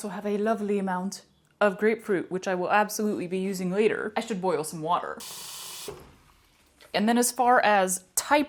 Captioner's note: water sound